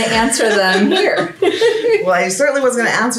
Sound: women laugh

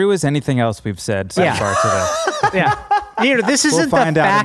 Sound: happily laughing

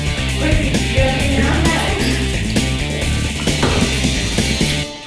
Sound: speaking quietly

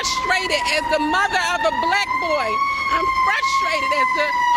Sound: sirens

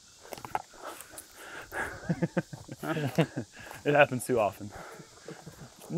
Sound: laughter

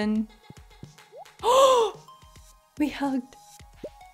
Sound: gasp

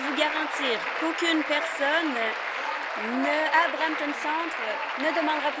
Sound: applause

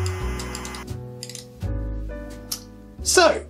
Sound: clicking mouse sounds

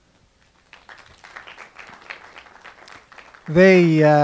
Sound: meager applause

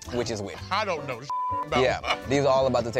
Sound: beep

